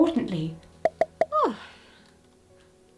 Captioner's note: comments popping